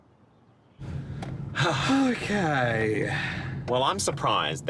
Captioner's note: both sighing